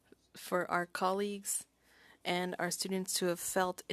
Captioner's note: speaking French